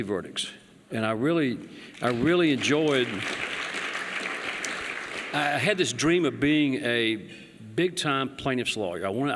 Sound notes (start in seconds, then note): 5.4 applause